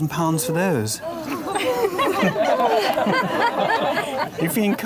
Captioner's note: crowd laughs